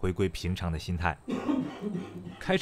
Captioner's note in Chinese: 咳嗽聲